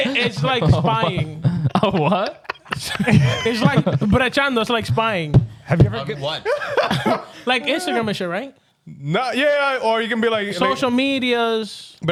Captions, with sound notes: (Laughing) It's like spying. What? (Laughing) It's like "brejando", it's like spying. Have you ever? I'll get one. Like Instagram is shit, right? No, yeah, or you can be like-- Social medias.